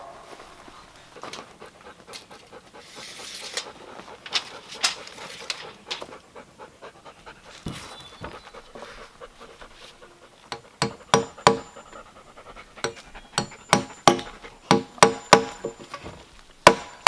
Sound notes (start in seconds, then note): 2.3 Cali panting; 10.5 hammering